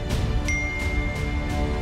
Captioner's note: phone beeps